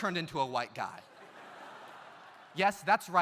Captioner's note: audience laughs